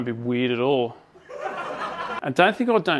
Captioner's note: canned audience laugher